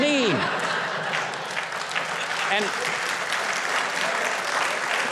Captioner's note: audience cheers